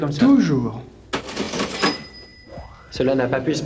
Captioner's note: cash register dings